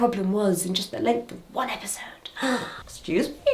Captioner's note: gasps